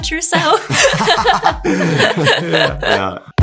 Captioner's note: group laughs